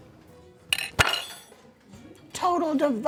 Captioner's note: silverware clanks